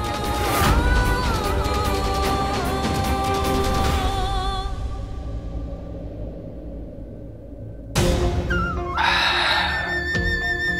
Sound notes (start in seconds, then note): 0.1 dramatic vocalising; 8.9 sighing